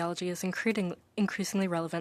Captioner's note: speaking French